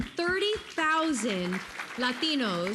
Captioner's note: applause